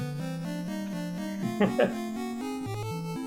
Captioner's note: chuckles